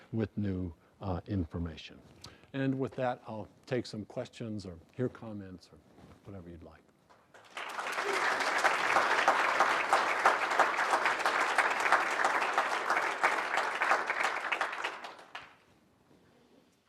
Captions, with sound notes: with new information. And with that, I'll take some questions or hear comments or whatever you'd like. [APPLAUSE]